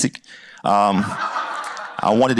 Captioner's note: laughter